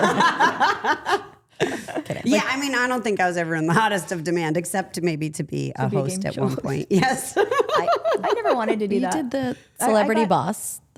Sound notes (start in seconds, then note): 0.0 group laughing; 7.2 laughs